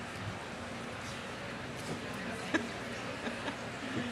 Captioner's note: crowd chattering